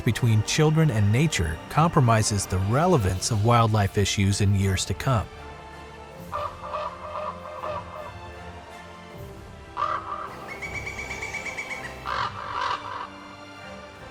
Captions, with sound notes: between children and nature compromises the relevance of wildlife issues in years to come. [Music & raven calling]